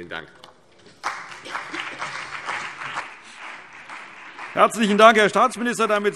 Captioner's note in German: Beifall CDU und BÜNDNIS 90/DIE GRÜNEN